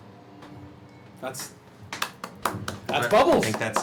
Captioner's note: clapping